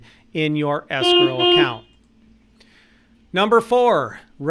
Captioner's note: horn beeps